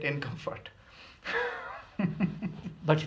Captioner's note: laughs